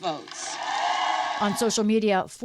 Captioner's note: cheering